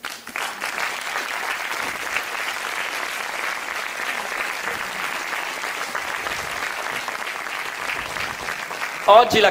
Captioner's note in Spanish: aplausos